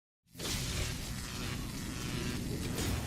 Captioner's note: buzzing